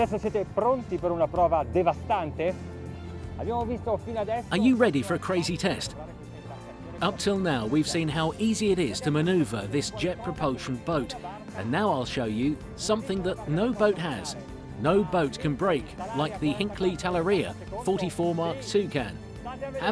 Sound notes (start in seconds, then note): 0.1 host speaks in foreign language; 4.6 voiceover